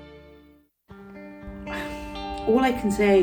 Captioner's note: exhales